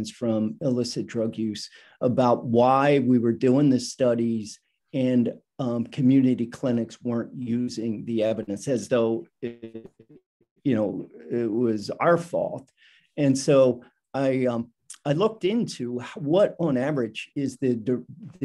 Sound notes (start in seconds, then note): 9.4 static